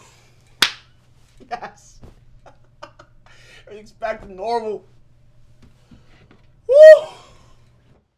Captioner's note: laughs